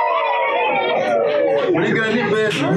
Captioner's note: big laughter